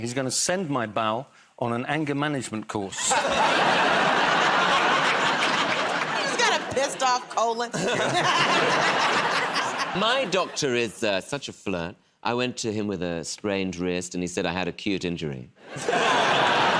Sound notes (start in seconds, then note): 2.9 laughter; 7.5 laughs; 7.9 laughter